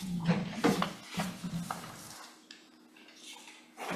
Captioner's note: objects shuffling